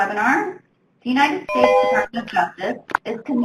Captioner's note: ring